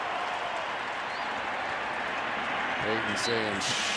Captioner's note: cheering